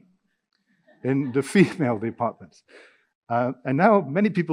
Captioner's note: audience laughing